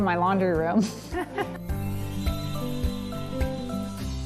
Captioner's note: laughter; upbeat music